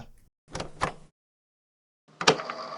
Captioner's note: tape player opening